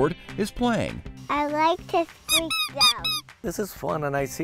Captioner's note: toy duck squeaking